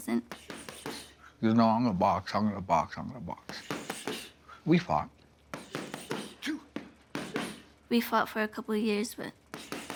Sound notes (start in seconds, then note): 6.2 both grunting